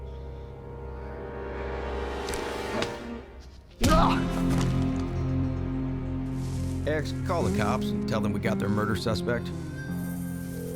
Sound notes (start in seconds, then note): 3.8 punch, mr. gates groans